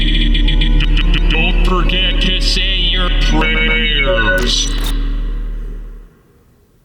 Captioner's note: stuttering and glitching; stuttering and glitching